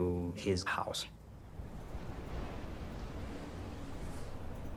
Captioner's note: wind blowing